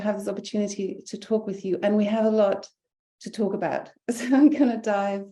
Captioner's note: chuckling